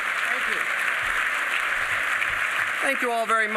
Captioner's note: applause